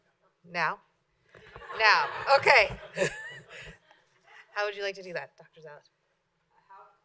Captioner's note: laughter